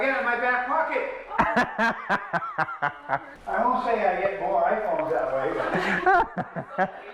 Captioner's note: laughter